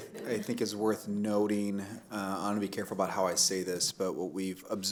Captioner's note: laughter